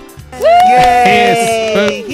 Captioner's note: cheers